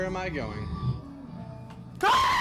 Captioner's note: scream